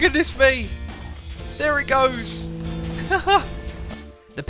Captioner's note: laughter